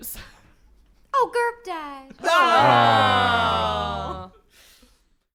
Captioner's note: sadly, unison